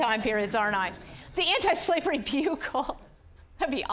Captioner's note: audience laughing